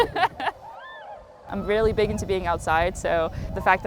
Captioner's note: person laughing